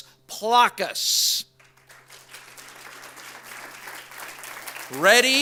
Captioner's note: audience applauds